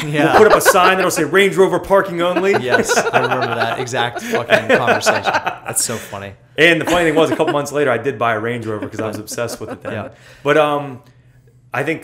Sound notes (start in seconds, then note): 0.1 laughter